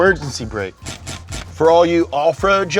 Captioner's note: handbrake cranks